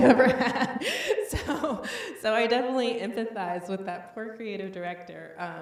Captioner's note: laughs